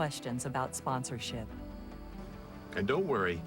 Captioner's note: none